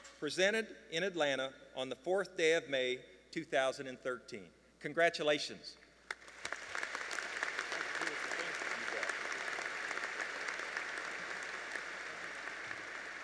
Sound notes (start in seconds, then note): 9.2 applause